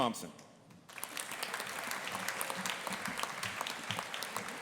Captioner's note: audience applauding